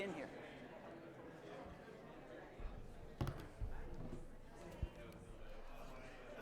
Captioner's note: audience chatting indistinctly